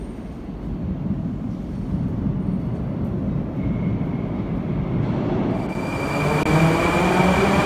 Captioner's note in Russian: прибытие поезда на станцию